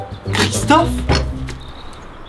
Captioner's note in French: Bonk